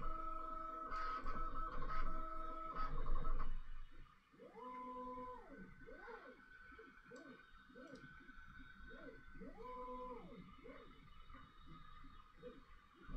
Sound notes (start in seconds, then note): 10.6 dog